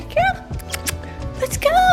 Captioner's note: smacking lips